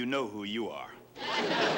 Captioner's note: laughter